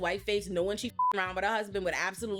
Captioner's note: beep